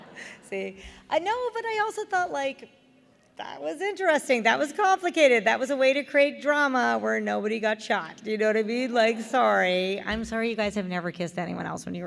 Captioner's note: laughter